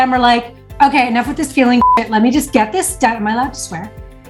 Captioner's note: beep